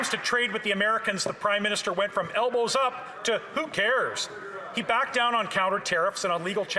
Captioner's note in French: voix de l'interprète